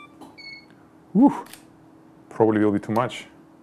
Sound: camera beeps; shutter clicks

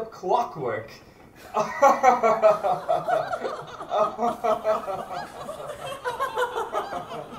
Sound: laughter from the crowd

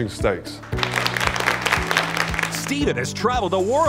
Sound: audience applauding

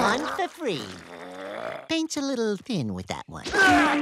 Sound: growls

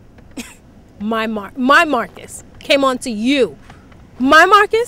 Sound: scoffs

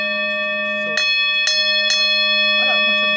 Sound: ding ding ding

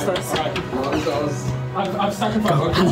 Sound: whispering

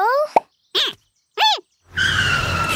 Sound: squeaking

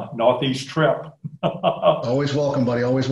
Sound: laughing

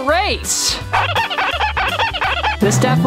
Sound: cartoonish squeaking

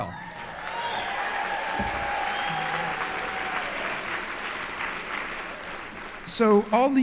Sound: applause

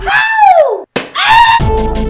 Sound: screaming

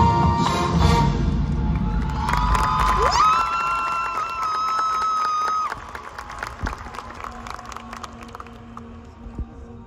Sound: more cheering

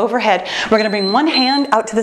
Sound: timer beeps

